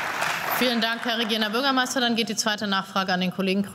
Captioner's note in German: Beifall